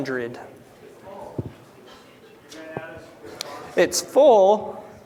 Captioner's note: chatter